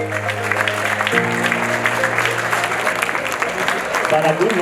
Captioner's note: audience applauds